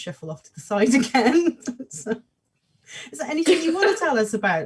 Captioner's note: both laugh